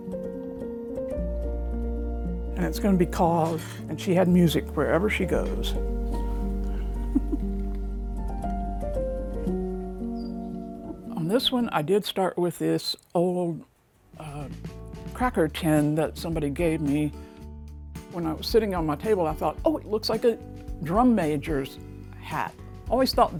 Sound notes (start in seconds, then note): 0.2 light music continues; 6.4 chuckles; 8.9 light music continues